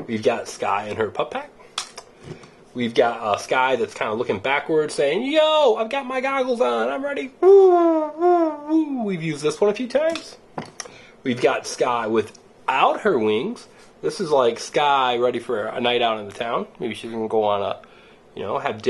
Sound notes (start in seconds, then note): none